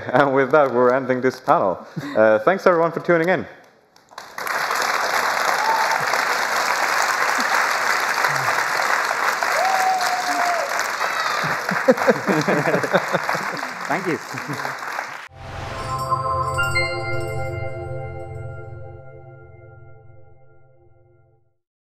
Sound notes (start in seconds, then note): 4.1 cheers and applause; 11.4 laughter